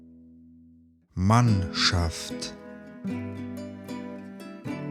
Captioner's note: german